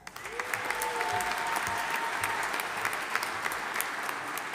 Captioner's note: audience applauding